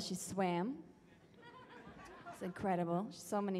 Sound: audience laughs

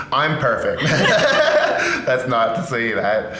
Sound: both laughing

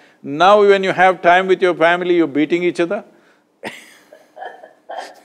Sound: both laugh

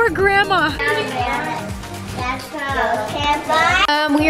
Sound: chattering

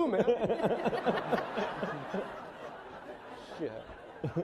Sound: laughing

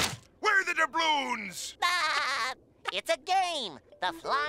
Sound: laughing

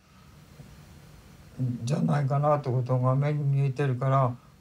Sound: speaking Japanese

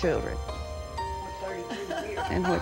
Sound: laughter

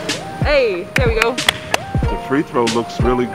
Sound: hands clapping

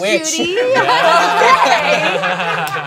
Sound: cast laughs

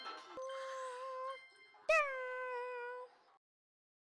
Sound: silly noises

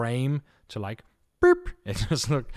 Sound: imitates beep

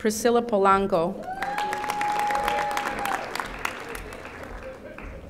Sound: audience applauding

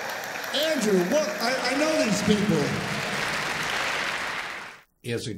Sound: audience applauds

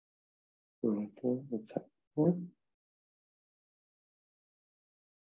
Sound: speaking faintly

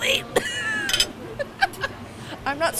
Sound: laughing

